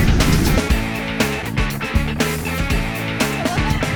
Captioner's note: engines rumbling